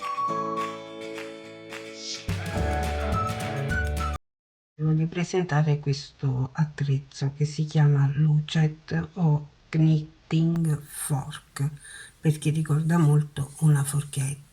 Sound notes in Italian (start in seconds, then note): 0.0 Applauso